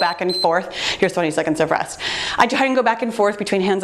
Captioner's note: timer beeps